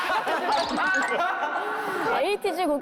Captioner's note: cracking up at joke